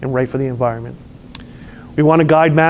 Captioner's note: lip smacks